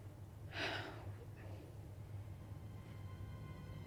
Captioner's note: Rachel sighs